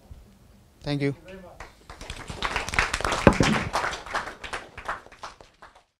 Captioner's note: audience applause